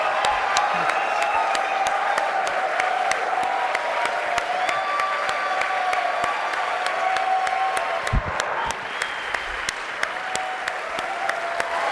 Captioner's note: cheering